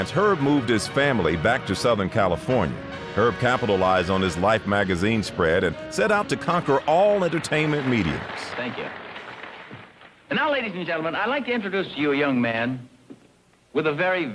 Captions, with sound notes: Herb moved his family back to Southern California. Herb capitalized on his "Life" magazine spread and set out to conquer all entertainment mediums. (audience applauding) - Thank you. And now ladies and gentlemen, I'd like to introduce to you a young man with a very,